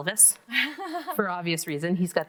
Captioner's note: laughs